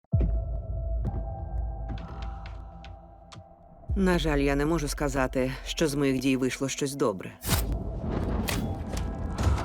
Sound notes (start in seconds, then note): 0.2 gentle music playing; 7.8 thunder rumbles